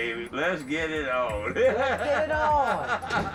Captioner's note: man laughs